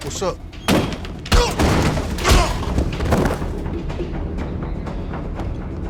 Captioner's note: grunts